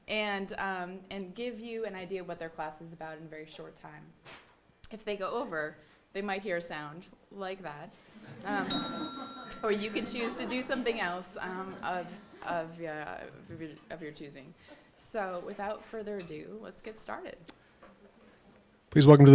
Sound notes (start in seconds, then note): 8.2 audience laughing; 8.6 bell dinging